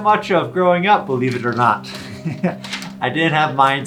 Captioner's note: chuckles